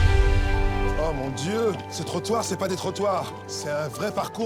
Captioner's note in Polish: po francusku